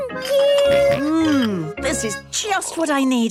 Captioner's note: snorts